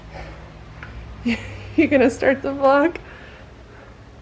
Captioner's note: laugh